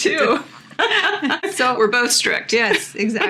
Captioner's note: laughter